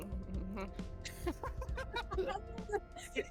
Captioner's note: giggles; laughs